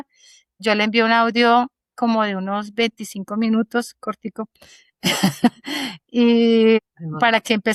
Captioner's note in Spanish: risas